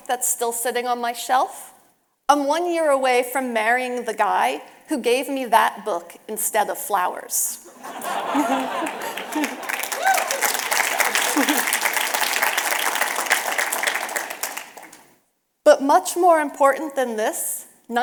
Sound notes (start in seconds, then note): 7.6 audience laughing and applause